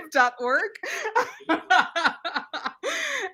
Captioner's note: laughs